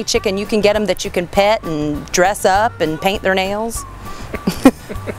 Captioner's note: laughs